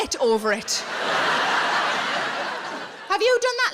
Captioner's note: audience laughing